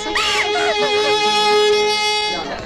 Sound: crying

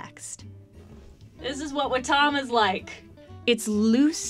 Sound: yelling from far away

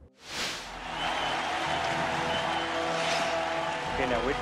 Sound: crowd cheers

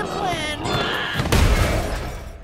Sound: screaming

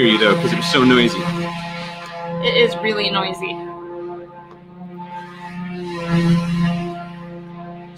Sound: loud construction noise

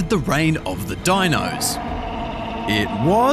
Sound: roaring

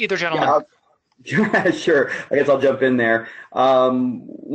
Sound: laughing

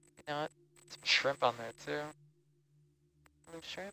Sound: male Voice

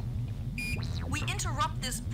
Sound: intensely British accent

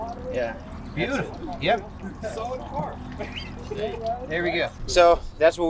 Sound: men chattering

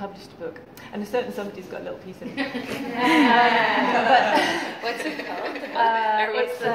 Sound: laughter

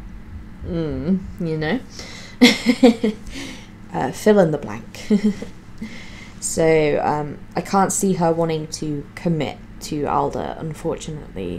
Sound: giggles

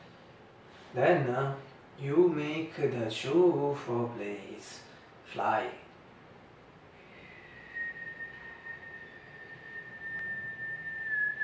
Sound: whistle

